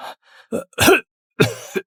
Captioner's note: cough cough cough